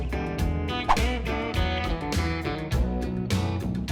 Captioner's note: swoosh